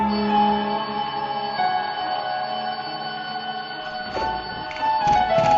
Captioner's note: alarm clock ringing